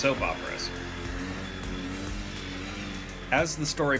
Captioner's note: ATV engine noises